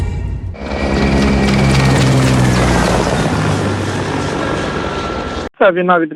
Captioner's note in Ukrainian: Звуки гвинтокрила